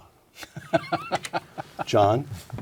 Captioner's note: laugh